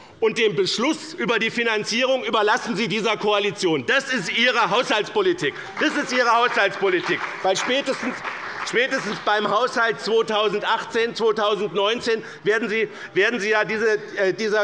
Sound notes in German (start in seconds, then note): 5.4 Beifall bei dem BÜNDNIS 90/DIE GRÜNEN und bei Abgeordneten der CDU